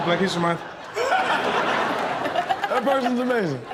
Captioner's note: all laughing